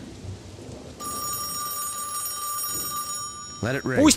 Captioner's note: ringing